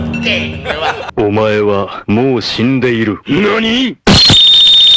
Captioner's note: laughs; man speaking in Japanese